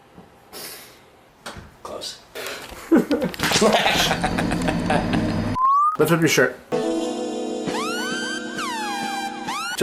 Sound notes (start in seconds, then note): 0.7 inhale; 3.6 gremlin laugh